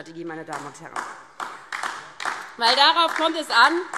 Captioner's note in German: Beifall DIE LINKE